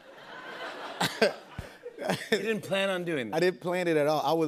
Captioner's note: laughter